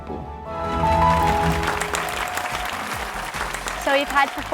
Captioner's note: applause